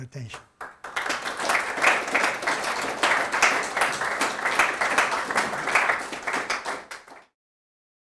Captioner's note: audience applauding